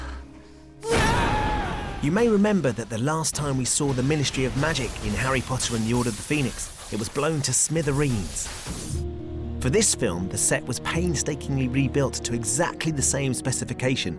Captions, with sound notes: [YELLING] You may remember the last time we saw the Ministry of Magic... ...In Harry Potter and the Order of the Phoenix... ...it was blown to smithereens. For this film, the set was painstakingly rebuilt to exactly the same specification...